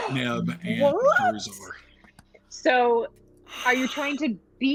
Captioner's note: gasps